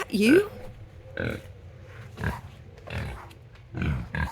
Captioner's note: pigs grunting